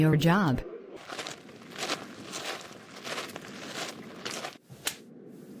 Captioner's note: footsteps